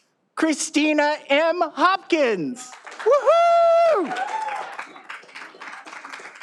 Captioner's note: all applauding